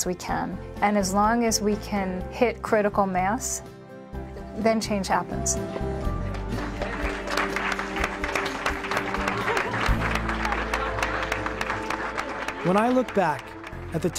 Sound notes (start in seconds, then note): 7.3 applauding